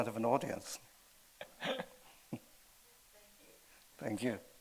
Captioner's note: laughing